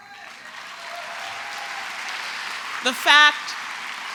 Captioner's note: applause